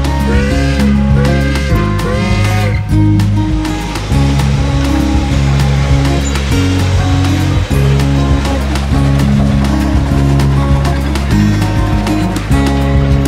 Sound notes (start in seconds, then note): 0.1 train horn blaring; 5.8 upbeat music